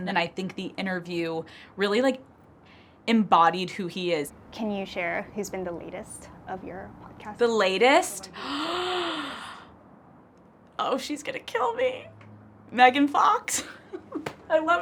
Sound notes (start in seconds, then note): 8.3 gasps; 12.2 chuckles